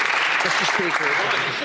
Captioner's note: applause